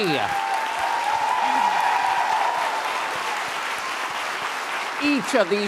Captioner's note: applause and cheering